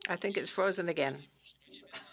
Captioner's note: speaking French